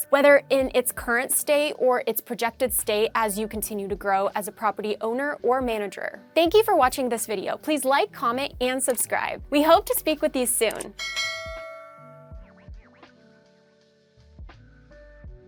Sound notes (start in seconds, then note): 10.9 bell ringing; 11.9 light music continues